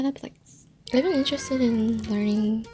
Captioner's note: Kid whining in background monkaS